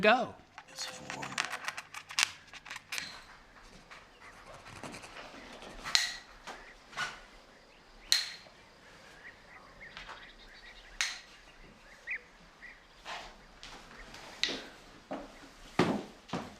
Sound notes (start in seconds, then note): 4.6 toy clacking